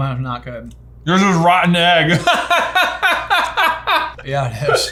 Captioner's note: laughs